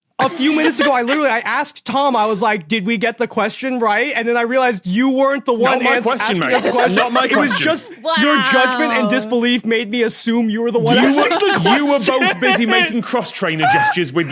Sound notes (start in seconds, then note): 10.8 laughs